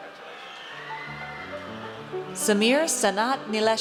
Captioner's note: audience cheers